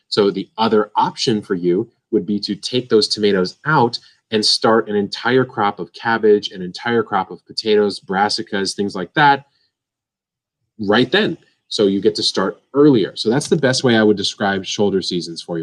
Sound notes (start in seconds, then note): none